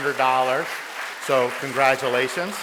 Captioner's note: audience applauds